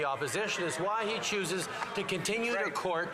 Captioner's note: some Applause